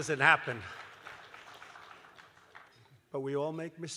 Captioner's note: laughter and applause